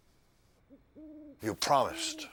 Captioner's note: owl hooting